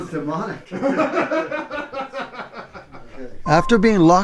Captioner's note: group laughs